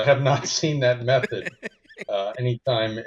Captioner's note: laughs